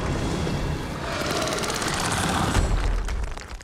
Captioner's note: snarls